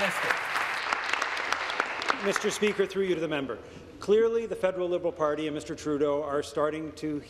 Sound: applause

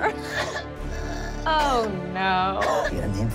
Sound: crying

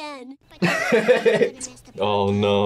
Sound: laughs

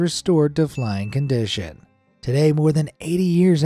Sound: bell dings

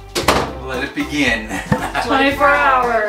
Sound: door clicks shut

